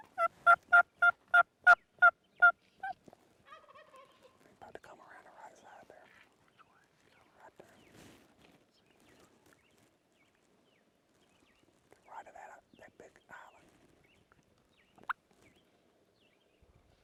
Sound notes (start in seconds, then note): 0.0 turkey calling